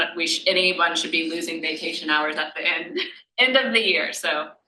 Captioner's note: laughs